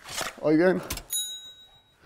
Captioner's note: Klingeln